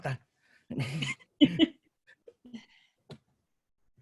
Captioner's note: laughter